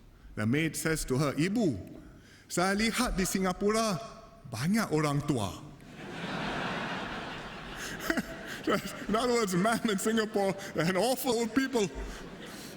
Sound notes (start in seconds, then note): 5.8 laughter